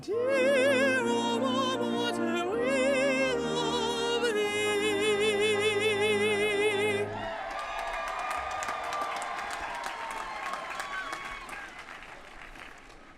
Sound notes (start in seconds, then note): 7.2 applause